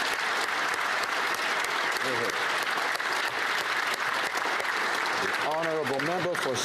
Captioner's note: applause